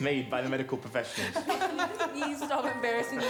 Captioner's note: attendees laughing